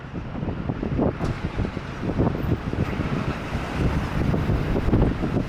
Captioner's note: wind blowing